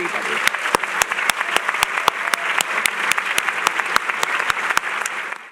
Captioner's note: applause